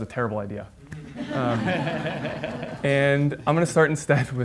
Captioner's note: audience laughs